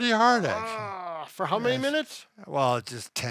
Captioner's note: groans